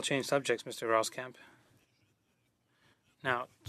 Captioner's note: speaking French